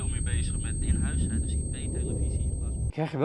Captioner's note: beep gets louder